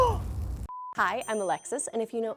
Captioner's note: gasps; beep